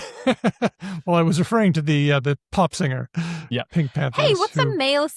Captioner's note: laughs